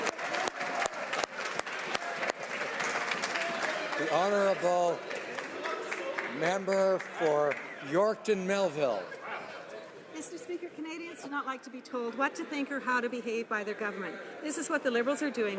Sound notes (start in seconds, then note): 3.2 some Applause